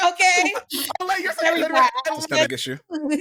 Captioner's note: all chattering